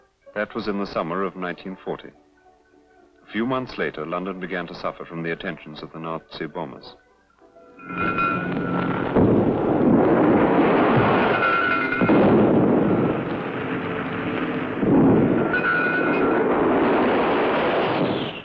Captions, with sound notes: That was in the summer of 1940. A few months later, London began to suffer from the attentions of the Nazi bombers. (distant explosions) (fire bells ringing)